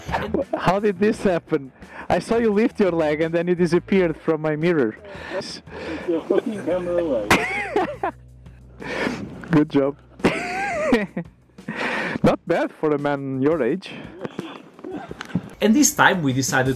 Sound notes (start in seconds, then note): 10.8 laughs